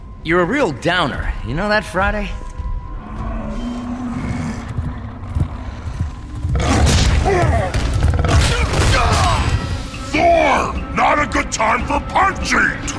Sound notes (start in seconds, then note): 3.5 creatures growl; 6.4 grunts; 6.4 roars; 9.2 grunts